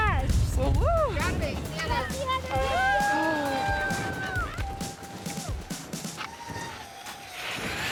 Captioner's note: cheering